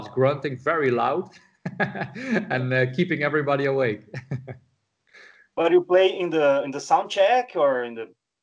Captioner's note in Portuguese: Risos